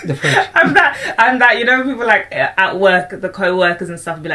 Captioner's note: laughs